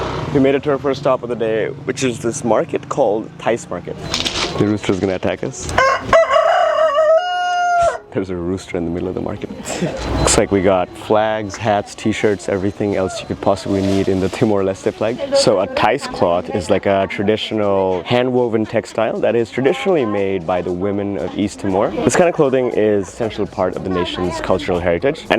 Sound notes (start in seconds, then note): 5.7 crowing